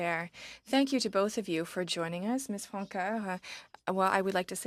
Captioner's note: speaking French